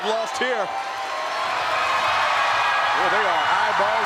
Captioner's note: crowd cheering